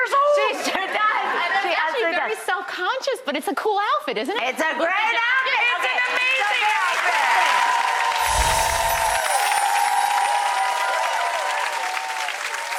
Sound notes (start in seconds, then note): 0.2 audience laughs; 5.6 audience cheers and applauds